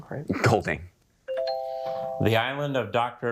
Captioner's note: bell dings